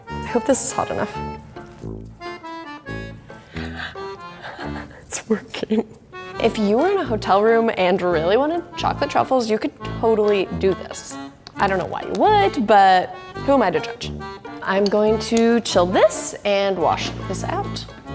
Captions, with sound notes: I hope this is hot enough. (giggling) It's working. If you were in a hotel room and really wanted chocolate truffles, you could totally do this. I don't know why you would, but who am I to judge? I'm going to chill this and wash this out.